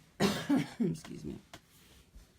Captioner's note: cough